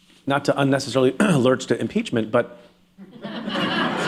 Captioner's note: laughter